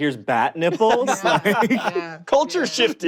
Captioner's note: laughter